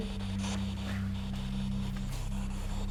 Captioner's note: static